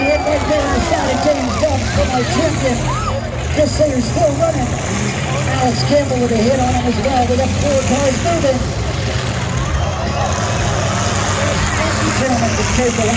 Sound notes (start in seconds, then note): 10.3 engines rev and crowd cheers